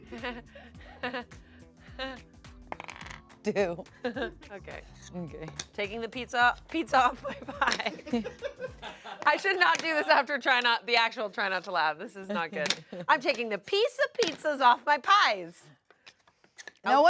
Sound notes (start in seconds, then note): 7.2 laughs; 8.8 crew laughs; 13.1 chuckles